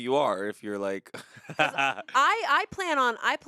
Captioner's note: laughs